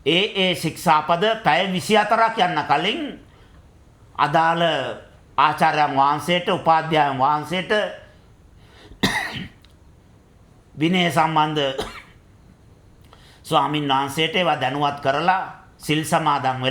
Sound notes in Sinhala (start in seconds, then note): 9.0 උගුර කෑරීම